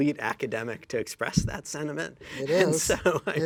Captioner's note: laughs